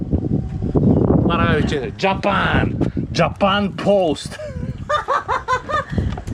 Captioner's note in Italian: risate